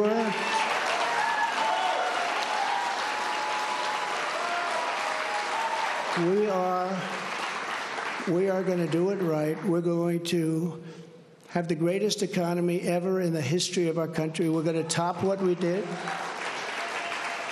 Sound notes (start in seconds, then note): 2.6 cheers and applause